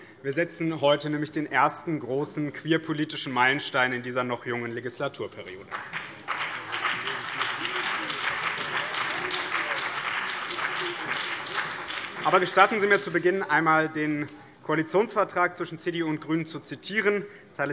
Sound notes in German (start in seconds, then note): 5.6 Beifall BÜNDNIS 90/DIE GRÜNEN und vereinzelt CDU